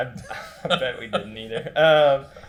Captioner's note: laughs